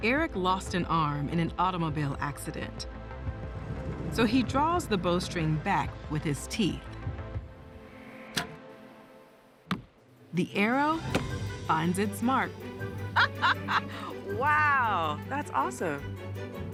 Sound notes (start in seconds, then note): 9.5 arrow hits target; 13.0 laughs